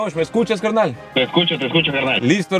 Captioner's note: voice over the phone